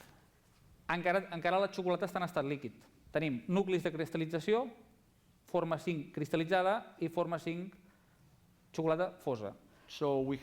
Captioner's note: non-english speech